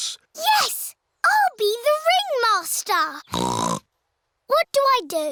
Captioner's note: snorts